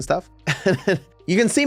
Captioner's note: laughing